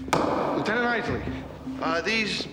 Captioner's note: gavel bangs